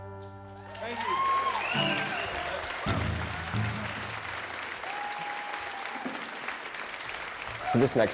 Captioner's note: applause